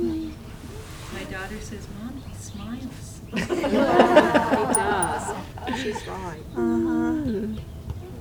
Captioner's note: laughter